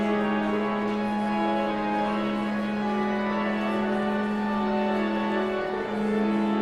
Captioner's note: somber organ music continues; audience chattering continues